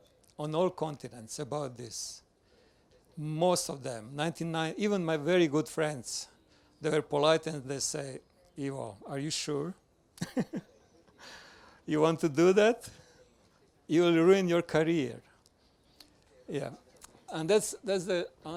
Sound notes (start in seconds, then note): 12.9 laughs